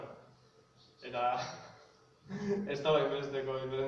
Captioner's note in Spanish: se ríe